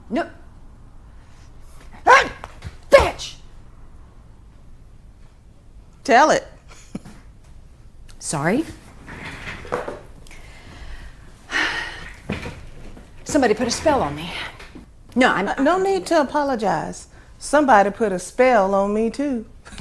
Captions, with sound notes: No, uh, bitch! - Tell it. - Sorry. (she exhales) Somebody put a spell on me. No I... - No need to apologize. Somebody put a spell on me, too.